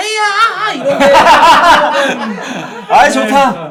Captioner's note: laughing